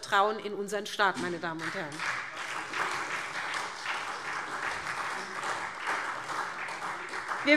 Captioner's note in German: Beifall SPD und DIE LINKE